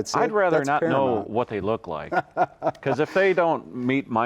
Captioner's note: chuckles